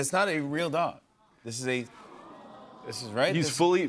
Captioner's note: audience awws